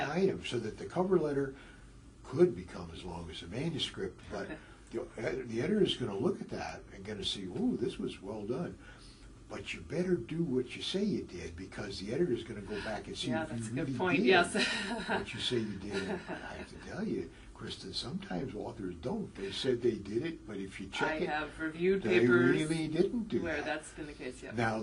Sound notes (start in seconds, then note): 14.5 laugh